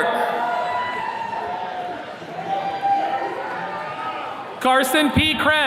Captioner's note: attendees cheering